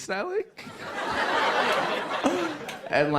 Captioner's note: laughter